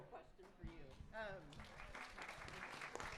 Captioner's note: applause